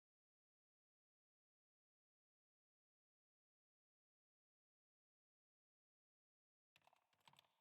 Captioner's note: keyboard typing